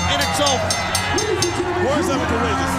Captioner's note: bell ringing